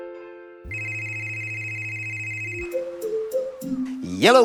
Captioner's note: phone ringing